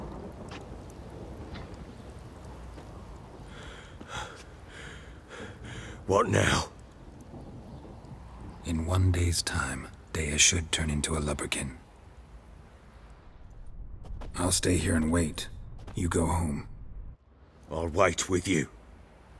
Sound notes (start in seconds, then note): 3.4 heavy breathing